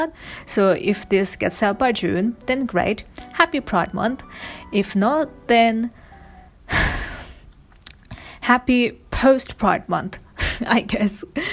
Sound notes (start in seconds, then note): 6.7 sighs; 10.1 laughs